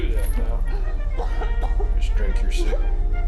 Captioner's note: victim coughing